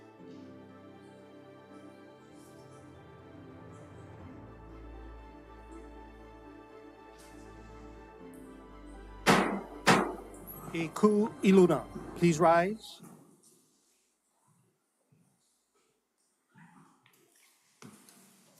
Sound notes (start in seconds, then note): 9.2 gavel bangs twice